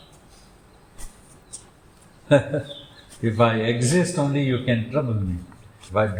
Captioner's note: laughs